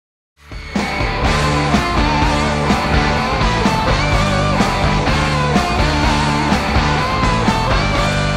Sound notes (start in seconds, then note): 0.4 upbeat rock music begins; 0.5 crowd cheering